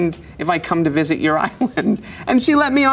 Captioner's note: chuckles